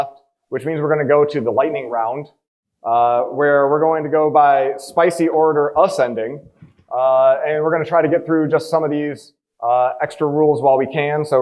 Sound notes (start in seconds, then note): none